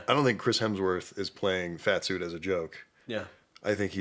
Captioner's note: none